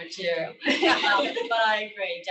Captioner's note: laughter